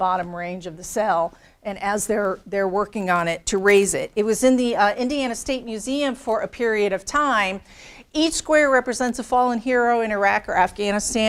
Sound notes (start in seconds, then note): none